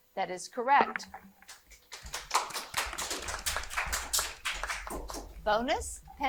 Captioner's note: audience applauding